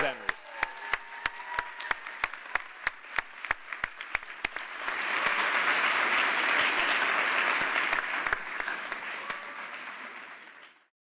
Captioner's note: applause